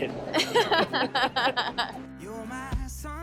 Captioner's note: both laugh